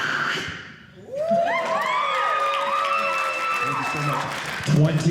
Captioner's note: beat boxing; audience cheering